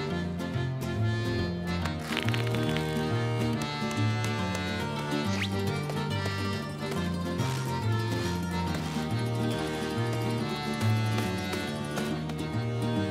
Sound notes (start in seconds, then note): 1.7 cracking